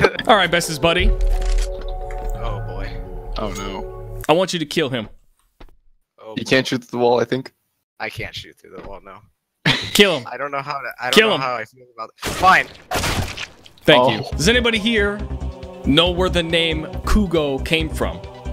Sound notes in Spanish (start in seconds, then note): 9.7 risa nerviosa; 12.2 disparos